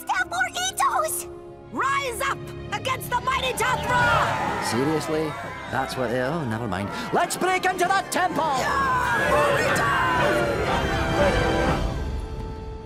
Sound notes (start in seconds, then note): 8.6 mummies clamoring